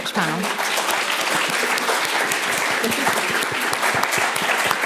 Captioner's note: audience applauding